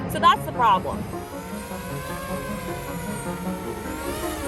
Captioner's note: drone flying